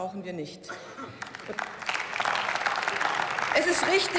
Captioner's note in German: Beifall